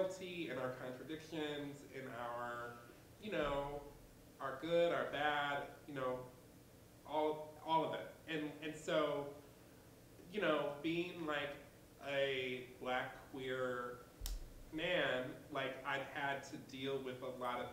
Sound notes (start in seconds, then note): none